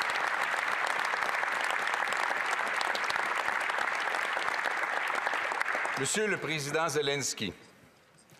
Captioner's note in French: applaudissements